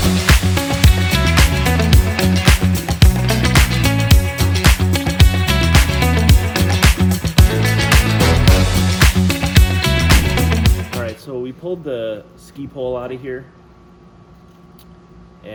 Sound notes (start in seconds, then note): 9.7 graphics whooshing